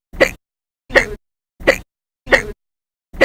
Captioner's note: hic!; hic!